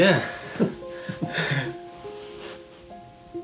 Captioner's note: chuckling; relaxing piano music